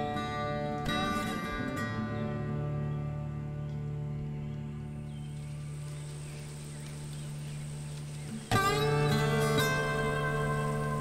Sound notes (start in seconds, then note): 0.2 southern gothic music; 6.8 insects buzzing